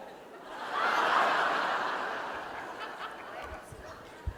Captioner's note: audience laughing